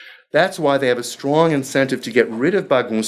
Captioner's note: speaking foreign language